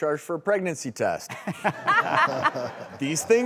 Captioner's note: laughs